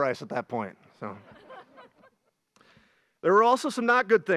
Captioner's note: graduates laugh